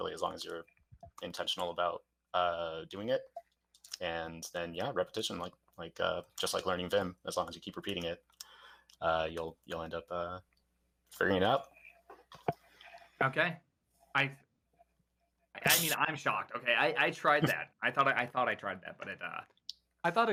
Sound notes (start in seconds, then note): 17.3 laughs